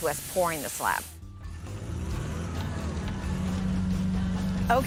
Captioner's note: engine roars